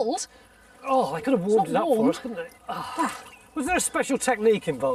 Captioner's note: groans